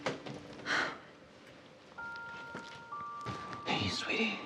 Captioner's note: Maggie exhaling